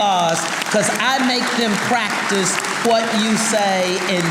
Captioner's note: audience applauding